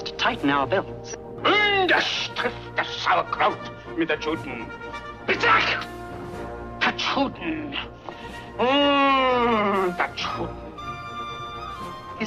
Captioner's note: faux-German speech